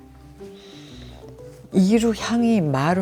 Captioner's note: smelling